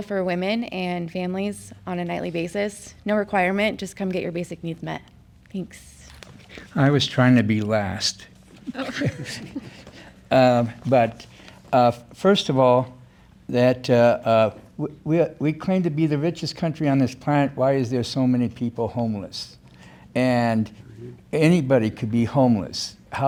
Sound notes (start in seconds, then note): 8.6 laughs